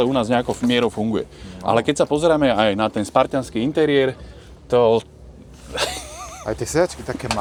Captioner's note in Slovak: smiech